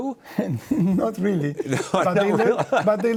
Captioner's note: laughs; chuckles